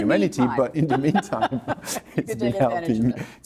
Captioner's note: laughs